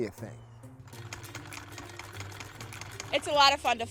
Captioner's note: sewing machine clicks